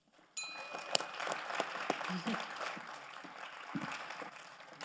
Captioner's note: audience applauds